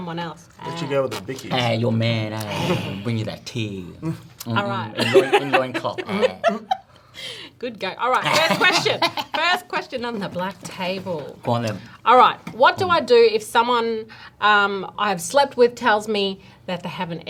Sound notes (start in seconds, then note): 8.2 laughs